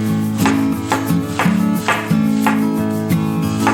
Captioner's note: mushrooms being sliced